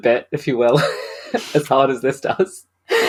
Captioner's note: laughs